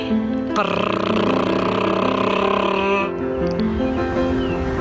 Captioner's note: mimicking drumrolls